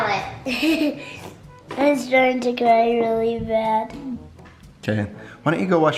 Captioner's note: laughs